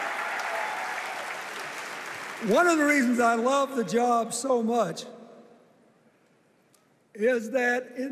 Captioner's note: cheers and applause